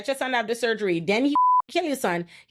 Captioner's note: beep